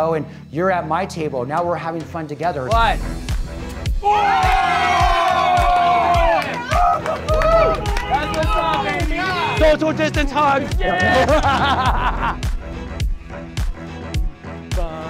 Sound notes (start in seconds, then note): 4.0 cheers; 13.5 laughs